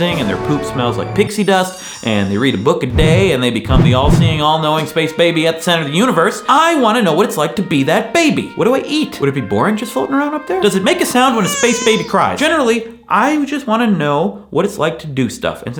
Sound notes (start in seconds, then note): 0.0 triumphant music; 4.2 inspirational music; 11.1 baby cries